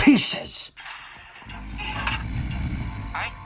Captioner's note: low growl